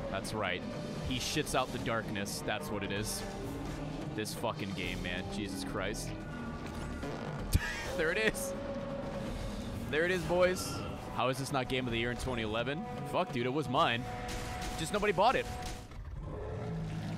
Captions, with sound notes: That's right, he shits out the darkness. That's what it is. This fricking game man, Jesus Christ. [fart noise] (laughs) There it is, there it is boys. "How was this not Game of the Year in 2011?" Frick dude, it was mine. Just nobody bought it.